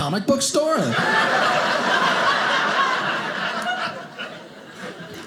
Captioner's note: audience laughing